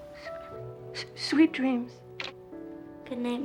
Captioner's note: stutters; receiver clicking